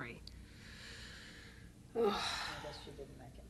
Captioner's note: sighs